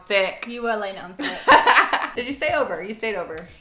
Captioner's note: laughing